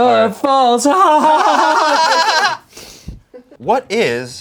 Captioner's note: laugh